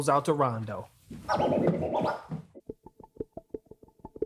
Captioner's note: DJ turntable scratch